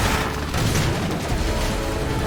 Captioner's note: crash